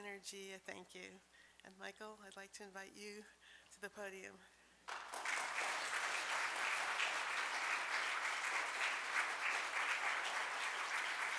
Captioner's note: applause